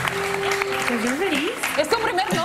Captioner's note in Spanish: aplausos